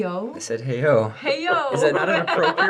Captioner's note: laughter